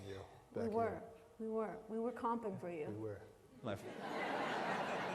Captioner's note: laughter